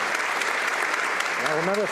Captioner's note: some Applause